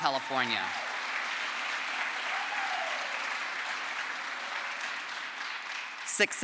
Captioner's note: crowd applause